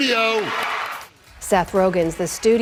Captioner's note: cheering